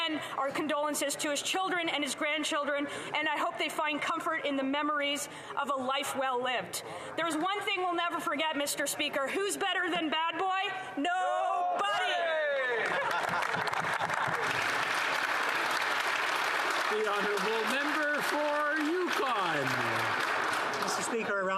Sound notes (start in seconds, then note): 17.1 some Applause